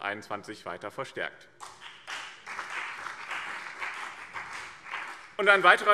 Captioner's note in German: Beifall BÜNDNIS 90/DIE GRÜNEN und vereinzelt CDU